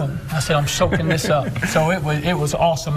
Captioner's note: laughing